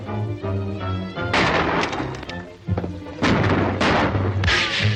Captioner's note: guns banging